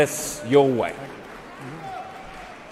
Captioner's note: applause